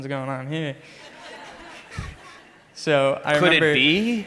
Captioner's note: crowd laughs